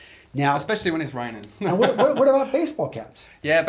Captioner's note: laughs